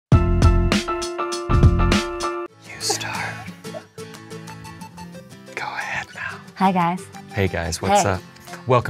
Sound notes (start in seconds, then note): 2.6 whispering